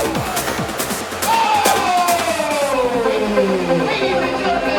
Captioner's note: all exclaiming